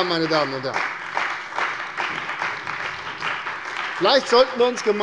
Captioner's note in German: Beifall bei der CDU und dem BÜNDNIS 90/DIE GRÜNEN